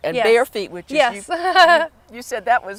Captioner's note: giggling